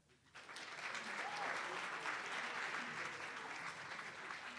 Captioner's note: attendees applauding